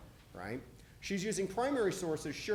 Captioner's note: none